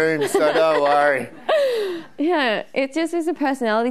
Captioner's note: laughing